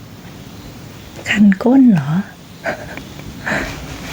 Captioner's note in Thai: หัวเราะ